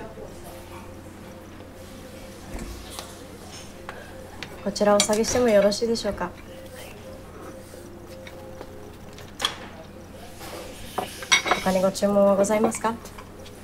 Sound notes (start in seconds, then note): 0.1 people chattering; 4.6 speaking in foreign language